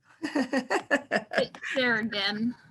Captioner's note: laughs